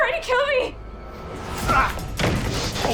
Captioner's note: both grunting